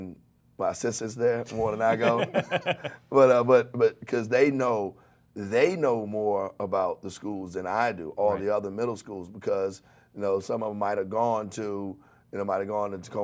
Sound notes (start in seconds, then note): 1.6 laughs